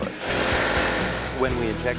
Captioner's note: drill boring